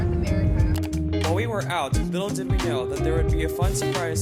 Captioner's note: voiceover